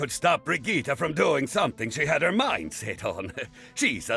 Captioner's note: chuckles